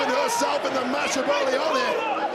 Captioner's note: audience booing